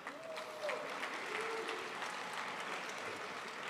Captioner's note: crowd applauds